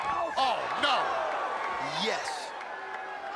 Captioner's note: crowd gasps